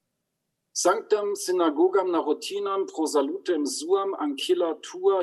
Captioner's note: speaks in Latin